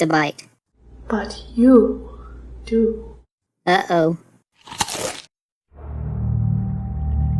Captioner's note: crunch